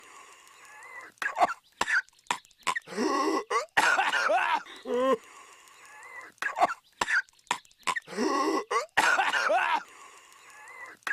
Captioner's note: cough cough